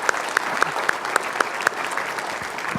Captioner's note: applause